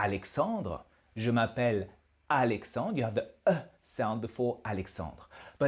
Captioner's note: exhale